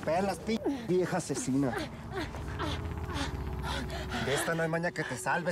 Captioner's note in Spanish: quejidos de sara